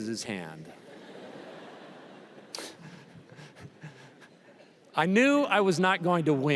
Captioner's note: laughter